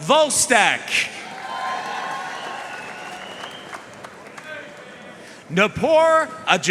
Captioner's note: audience cheering and applauding